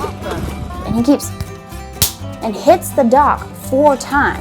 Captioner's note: smacking